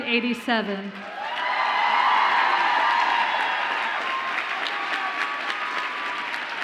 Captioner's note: audience applauding and cheering